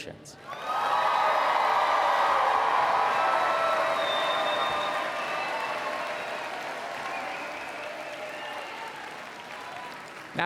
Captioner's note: applause and Cheering